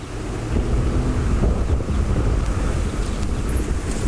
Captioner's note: car engine revving